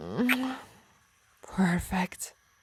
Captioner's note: kiss